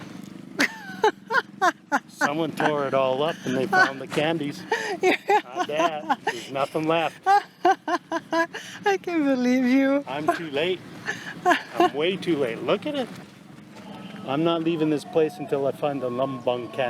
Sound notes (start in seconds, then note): 0.1 laughs; 7.5 laughs